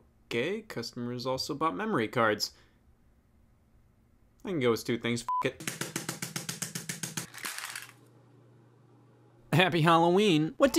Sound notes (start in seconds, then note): 5.3 beep; 5.6 high pitched drum sound; 7.3 memory cards clattering